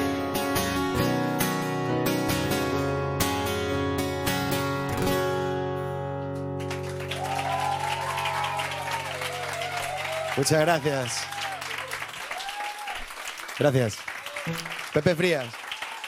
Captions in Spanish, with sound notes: (Aplausos) Muchas gracias. Gracias. ¡Pepe Frías!